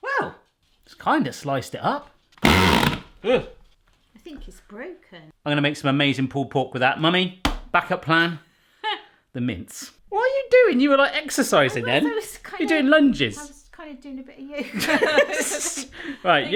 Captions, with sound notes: Wow! It's kind of sliced it up. (vigorous grinding) - I think it's broken - I'm gonna make some amazing pulled pork with that Mummy (slaps table) Backup plan, "The Mince" What are you doin? You were like exercising there - I was kind of - Are you doin lunges? - I was kind of doin a bit of yoga (laughing)